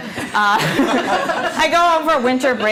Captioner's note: laughing